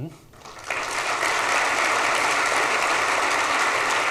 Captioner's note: audience applauds